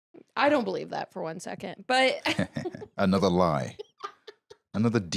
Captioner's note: chuckles